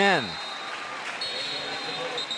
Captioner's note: whistle; pa announcement